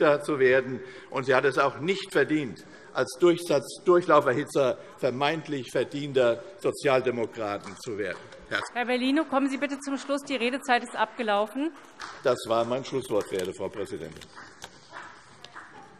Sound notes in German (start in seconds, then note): 7.8 Beifall CDU; 15.8 Zurufe DIE LINKE und SPD